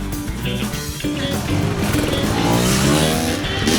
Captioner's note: dirt Bike Sounds